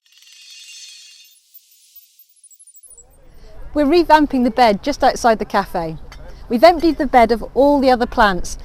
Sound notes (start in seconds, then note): 0.1 trill of bells